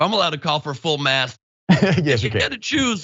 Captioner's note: laugh